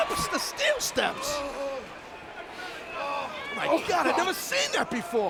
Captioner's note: Rob groaning